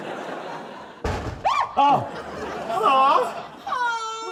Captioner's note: bang!; kura screams; both moan